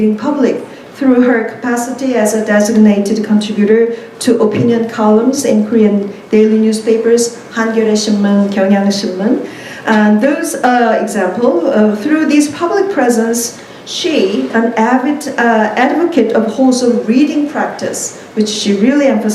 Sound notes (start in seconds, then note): 7.5 korean